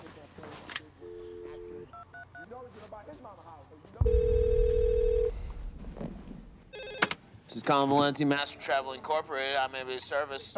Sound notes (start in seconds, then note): 1.0 touch tones beeping; 4.0 phone ringing; 4.0 line trilling